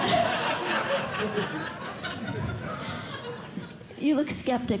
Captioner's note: laughter